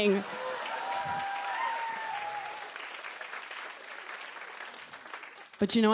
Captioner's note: cheers and applause